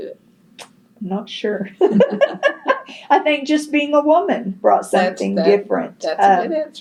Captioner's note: laughs